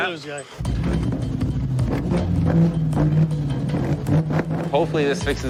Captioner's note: engine revving